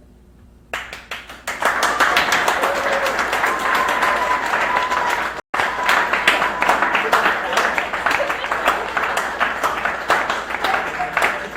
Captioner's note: crowd cheers